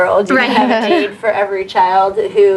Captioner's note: general agreement, laughter